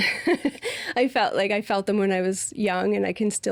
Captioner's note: laughing